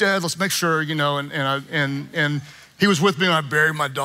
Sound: none

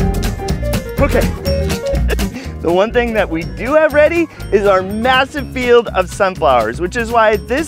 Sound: laughs

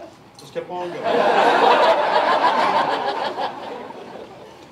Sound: laughter

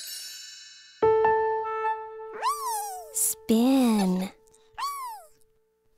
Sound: giggling

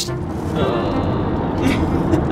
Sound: groaning; laughing

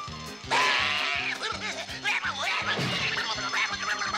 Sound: babbling hysterically

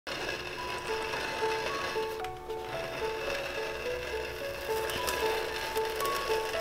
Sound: mechanical Whirring

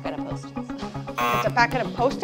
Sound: buzzer sounds

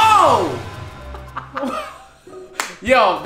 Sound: laughs

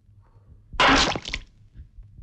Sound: glass thud

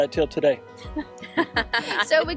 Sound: both laughs

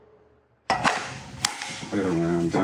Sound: gun clacking

